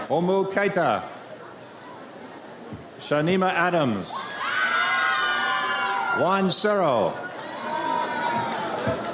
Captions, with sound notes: Omu Kayta. Shaneima Adams. (audience cheers) Juan Cerro.